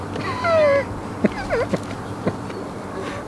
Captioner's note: laughing